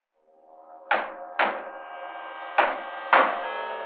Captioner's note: hammers thudding